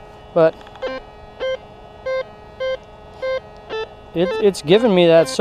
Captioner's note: detector beeps